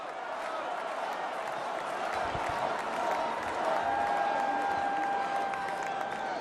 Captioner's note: crowd shouts "trump!"